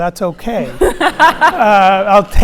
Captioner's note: audience laughs